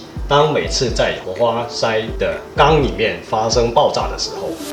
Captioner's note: engine